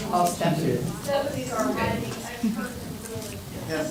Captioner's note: crowd talking indistinctly